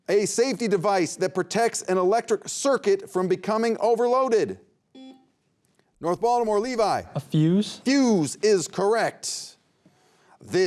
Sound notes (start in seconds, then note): 4.9 beep